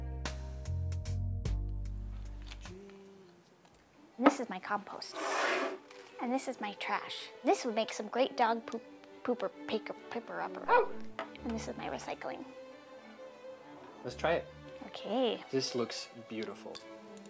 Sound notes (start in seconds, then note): 10.6 dog barking; 17.1 utensils scraping